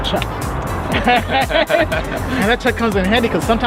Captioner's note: laughing